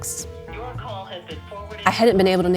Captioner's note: phone ringing, goes to voicemail